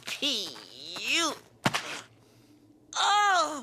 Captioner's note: squelch